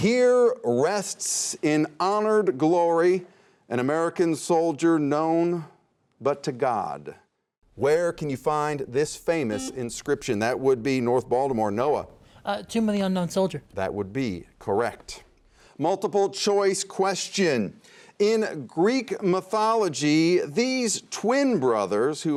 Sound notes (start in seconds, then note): 9.5 buzzer sounds